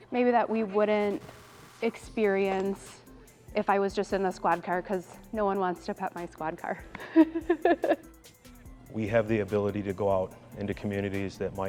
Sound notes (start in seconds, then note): 7.0 laughs